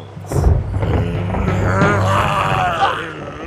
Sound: monster roars

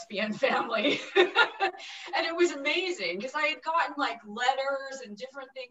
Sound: laughing

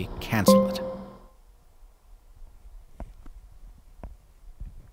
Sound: AirPods beep

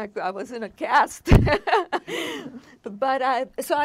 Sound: laughing

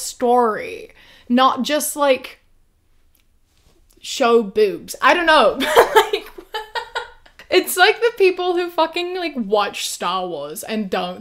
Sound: laughs

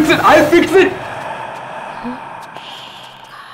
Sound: ghostly voice

